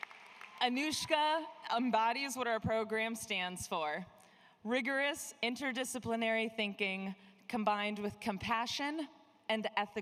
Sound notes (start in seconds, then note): 0.0 applause